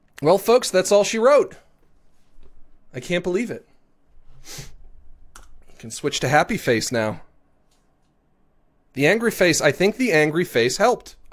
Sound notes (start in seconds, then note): 4.4 sniffs